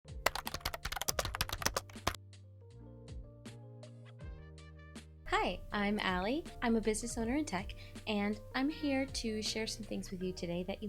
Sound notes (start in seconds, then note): 0.2 keyboard clacking